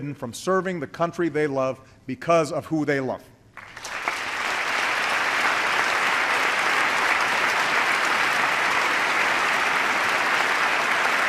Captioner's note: applause